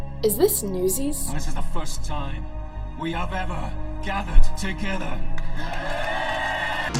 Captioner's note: cheers